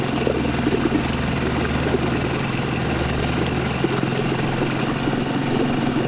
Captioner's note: boat motor rumbling; water sloshing